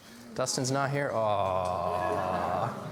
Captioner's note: laughs